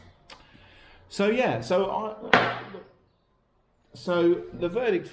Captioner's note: object hits table